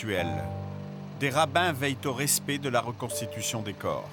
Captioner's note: French spoken audio